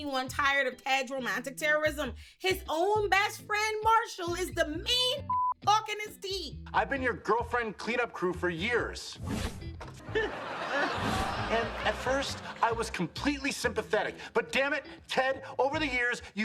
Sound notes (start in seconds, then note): 5.2 beep; 10.0 audience laughing